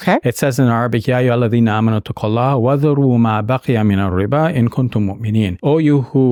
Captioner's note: speaks in Arabic language